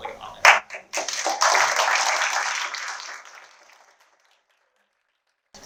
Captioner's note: applause